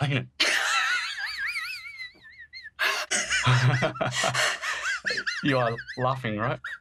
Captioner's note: laugh cries